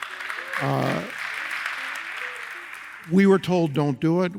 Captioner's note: audience applauds